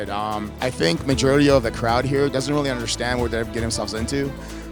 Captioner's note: none